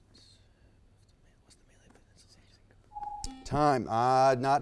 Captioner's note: team whispers